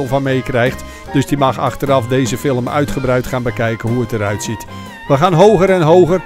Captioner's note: voiceover